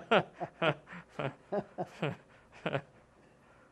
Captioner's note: laughter